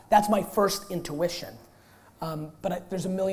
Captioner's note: none